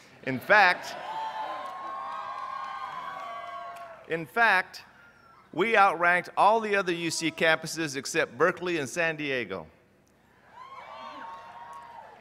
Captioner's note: cheers; cheers